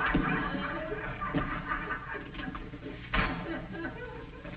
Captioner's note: audience laughing